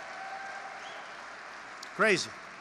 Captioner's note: laughter and applause